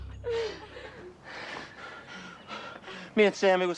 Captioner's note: panting